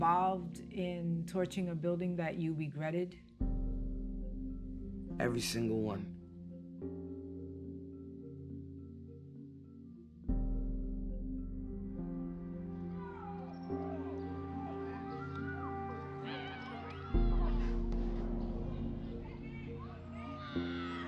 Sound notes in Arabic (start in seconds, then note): 12.9 صراخ الشباب